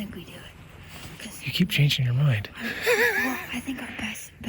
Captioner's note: laughing